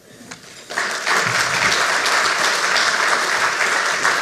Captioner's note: audience claps